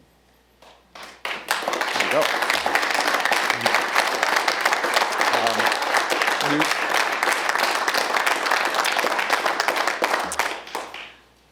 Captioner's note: applause